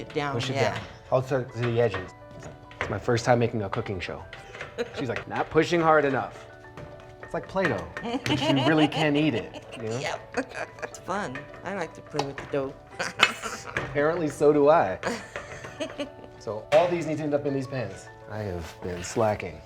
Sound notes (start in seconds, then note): 8.0 laughs; 12.7 laughs; 15.0 laughs